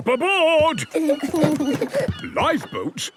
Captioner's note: both giggle